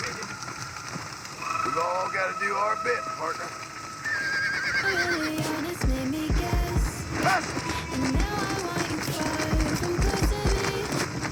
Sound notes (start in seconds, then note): 0.1 creepy music; 4.1 horse cries and creepy music